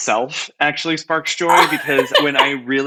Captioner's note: laughs